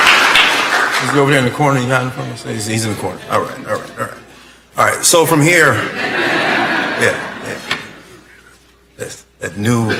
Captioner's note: applause